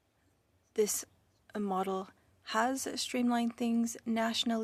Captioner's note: speaking French